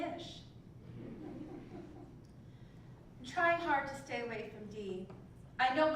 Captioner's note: laugh